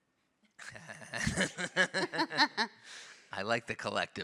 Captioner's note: panelists laugh